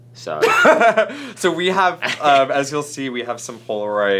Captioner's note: laughter